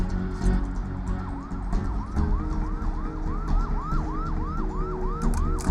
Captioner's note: distant sirens